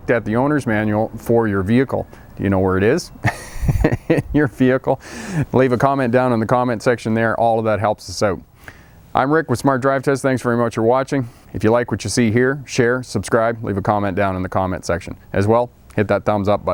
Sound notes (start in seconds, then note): 3.2 chuckling